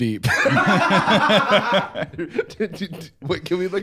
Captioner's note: both laughing